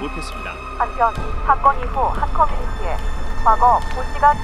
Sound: radio broadcast

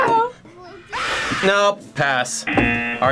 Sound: buzzer rings; video screams; buzzer rings

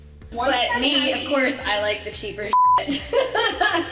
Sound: beep; laughs

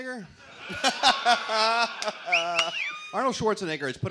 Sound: laughter

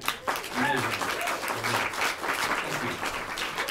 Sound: applause

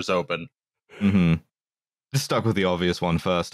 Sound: yawns

